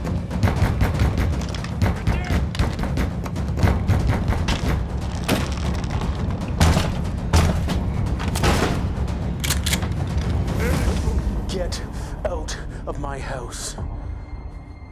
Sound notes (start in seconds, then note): 0.4 pounding on door; 3.6 pounding continues